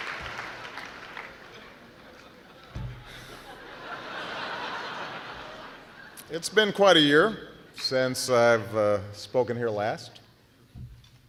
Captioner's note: applause